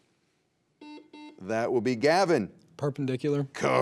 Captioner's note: buzzer beeps